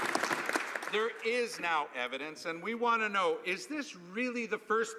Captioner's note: some Applause